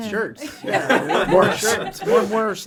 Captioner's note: all laugh